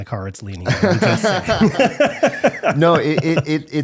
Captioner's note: laughing